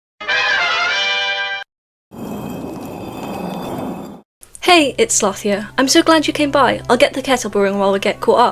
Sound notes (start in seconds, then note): 2.2 rock sliding sound effect